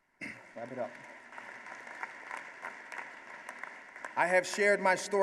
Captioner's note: applause